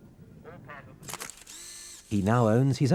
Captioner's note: camera whirring